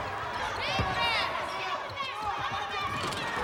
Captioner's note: crowd cheering